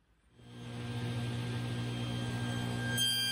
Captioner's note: dust collection and table saw noise